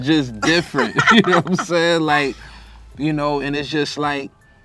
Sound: both laugh

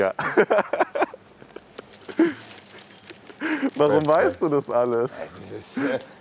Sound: laughing

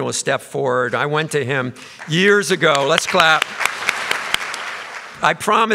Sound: audience applause

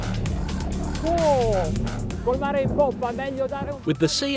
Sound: aggressive, warbling electronic music; shouting in Italian

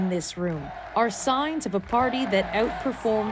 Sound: cheers and Applause

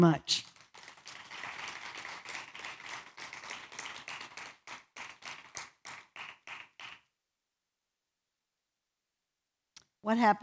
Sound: applause

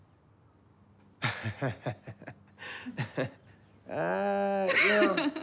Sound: Rufus laughs; Maddie laughs

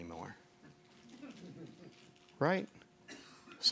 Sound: people chuckling

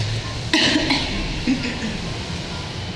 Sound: coughing

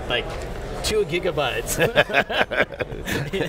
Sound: laughter

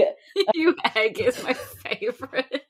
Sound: laughing

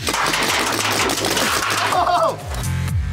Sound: cars clattering

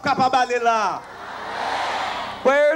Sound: crowd cheering boisterously

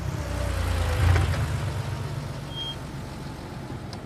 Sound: car approaching

